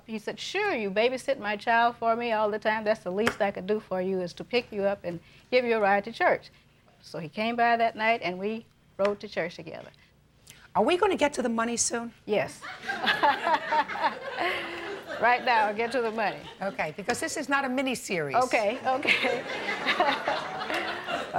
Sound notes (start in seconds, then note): 12.7 laughs; 12.7 audience laughing; 18.8 laughs